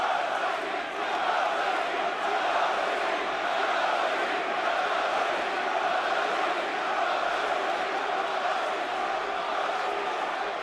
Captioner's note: crowd cheering